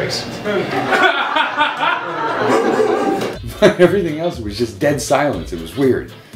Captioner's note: laughter